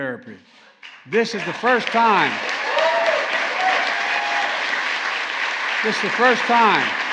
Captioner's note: applause